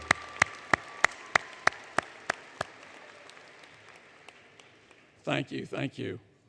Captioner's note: applause